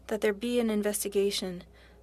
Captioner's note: speaking French